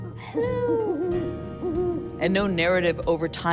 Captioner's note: owl hooting